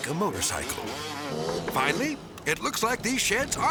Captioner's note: motorcycle whizzing